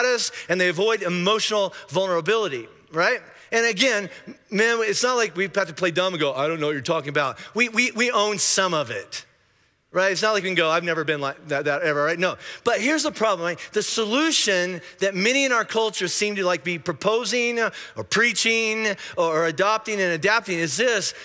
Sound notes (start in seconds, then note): none